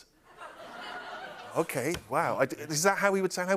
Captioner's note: laughter